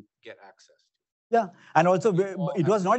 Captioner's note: mumbling